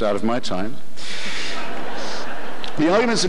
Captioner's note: audience laughter